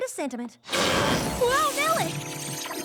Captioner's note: burps; poof!